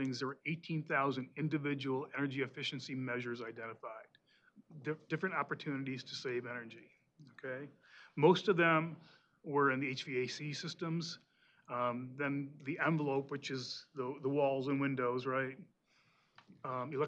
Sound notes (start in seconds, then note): none